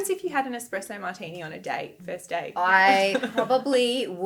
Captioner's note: laughing